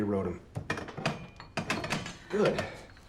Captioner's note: weights clatter